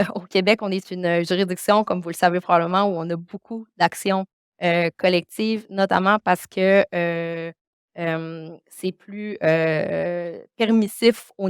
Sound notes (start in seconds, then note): 2.7 continues speaking French